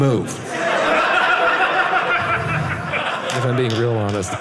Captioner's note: audience laughing